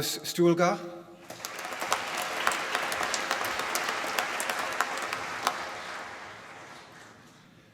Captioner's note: applause